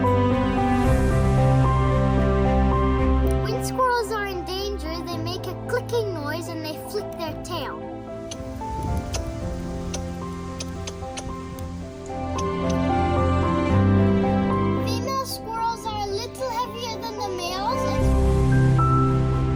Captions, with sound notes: When squirrels are in danger, they make a clicking noise and they flip their tail. [clicking] Female squirrels are a little heavier than the males.